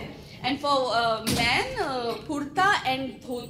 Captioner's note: speaking foreign language